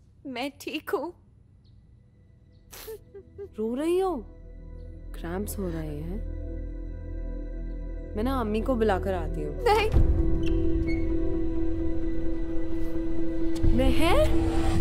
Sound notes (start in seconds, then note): 2.4 Meher crying; 10.4 Door opens